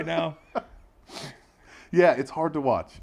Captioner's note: laugh